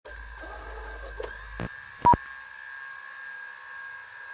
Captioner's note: static buzzing